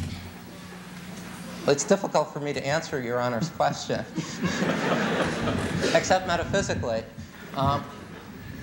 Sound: laughter

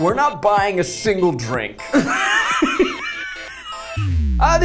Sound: laughs

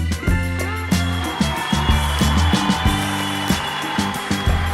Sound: crowd cheering

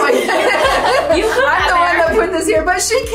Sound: laughing

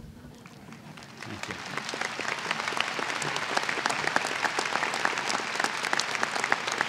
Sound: applause

